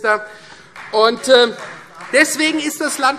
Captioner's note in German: Beifall Freie Demokraten